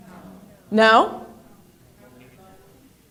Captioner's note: in Unison